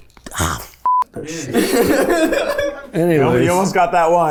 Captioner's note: group laughs